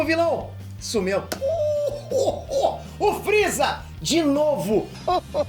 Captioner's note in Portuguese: risada do Freeza